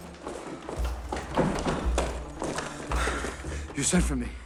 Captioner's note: panting